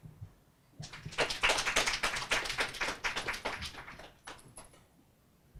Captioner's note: audience applauds